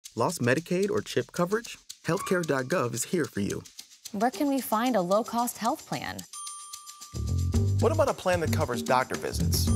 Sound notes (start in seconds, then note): 6.3 bell dings